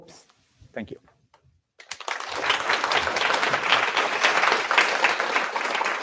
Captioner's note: applause